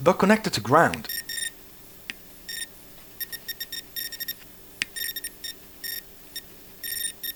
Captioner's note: beeping